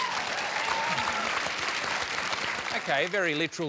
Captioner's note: applause